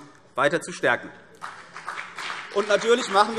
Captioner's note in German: Beifall CDU und vereinzelt BÜNDNIS 90/DIE GRÜNEN